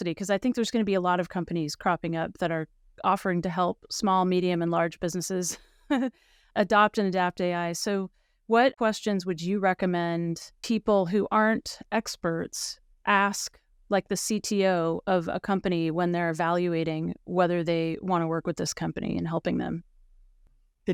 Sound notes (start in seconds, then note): 5.8 chuckles